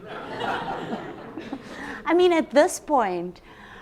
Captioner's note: audience laughs